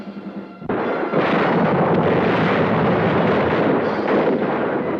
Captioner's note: gunshots blasting